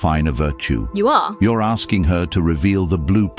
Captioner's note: AI Voice